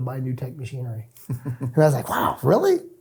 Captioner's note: chuckles